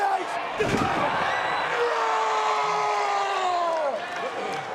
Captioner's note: wrestlers thudding